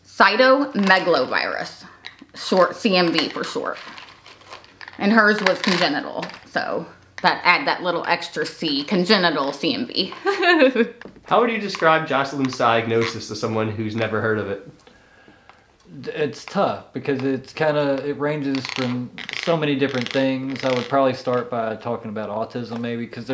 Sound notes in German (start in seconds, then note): 10.1 lacht